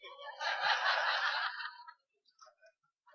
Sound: laughter

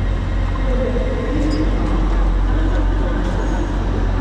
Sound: announcement echoing

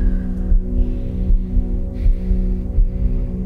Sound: heart pounding

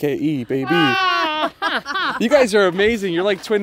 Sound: women laughing

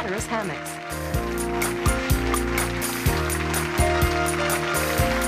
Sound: applauding and bright music

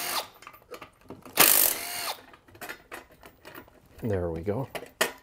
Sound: driver tool roaring

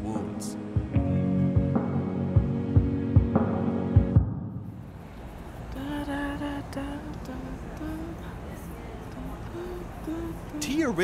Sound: humming to herself

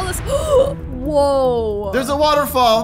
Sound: gasping

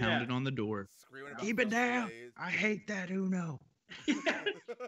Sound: laugh

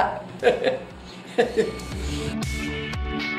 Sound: laughs

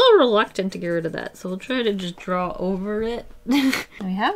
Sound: laughs

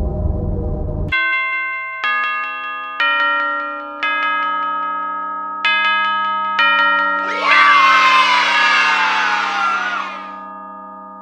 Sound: bells

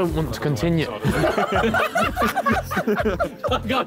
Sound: all laughing

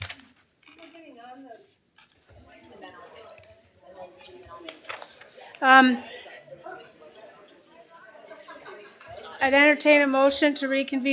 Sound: indistinct chatter

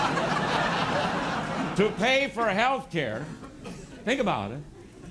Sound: laughter

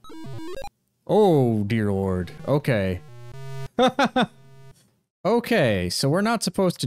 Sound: laughs

